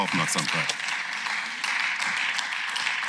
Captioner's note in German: Beifall